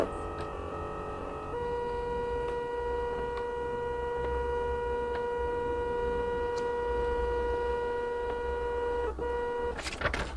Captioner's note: printer printing sound